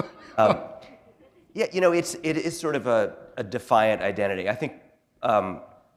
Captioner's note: chuckle